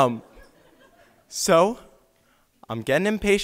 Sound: audience laughs

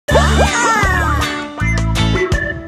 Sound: screaming, bubbles and music

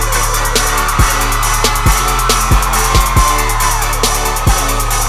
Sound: cheering and screaming

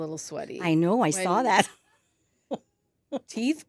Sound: laughs

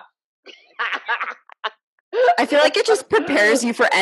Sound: laughing

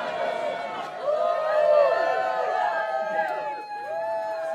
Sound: cheers

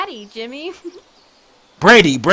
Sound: giggle

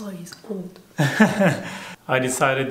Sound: laughter

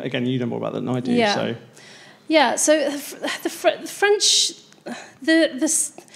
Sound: laughs

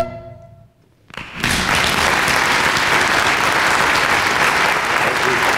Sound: clapping

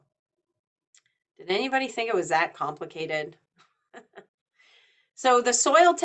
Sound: chuckles

